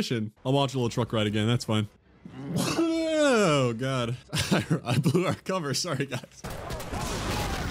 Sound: sneeze

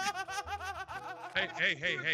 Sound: laugh

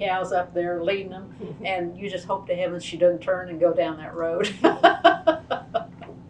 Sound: laughs

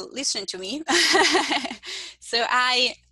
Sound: laughing

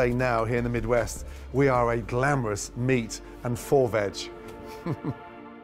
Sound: chuckles

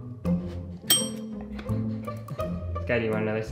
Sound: bell dinging

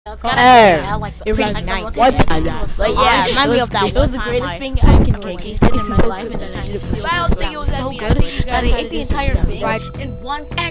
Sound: chatting

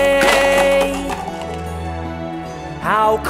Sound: cups clatter to the ground

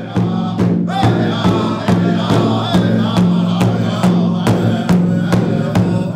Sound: chanting; drumming

